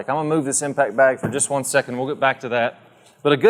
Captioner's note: bag thudding